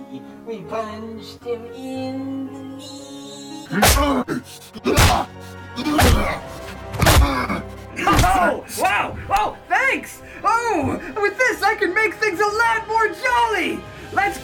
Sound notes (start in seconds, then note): 4.8 General Shao Grunts